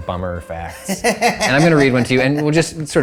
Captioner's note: laughing